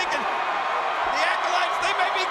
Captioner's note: audience cheers